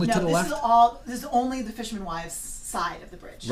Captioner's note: voiceover